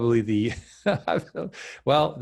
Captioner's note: laughing